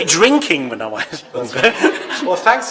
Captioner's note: laughter